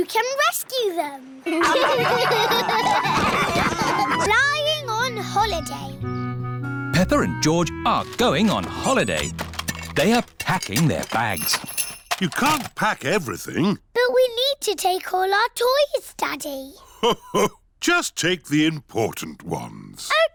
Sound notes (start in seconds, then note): 1.4 all laughing